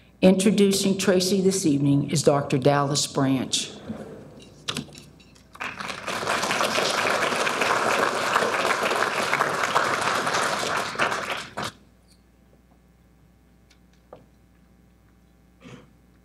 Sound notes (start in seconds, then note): 5.5 audience applauding